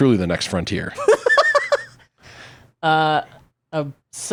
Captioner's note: laughing